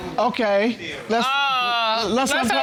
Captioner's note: judge exclaims